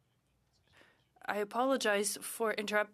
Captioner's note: speaking French